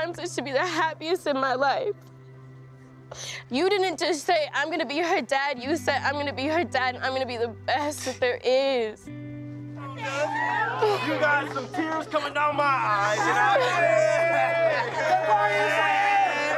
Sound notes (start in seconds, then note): 9.8 group cheers